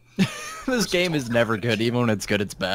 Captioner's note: laughs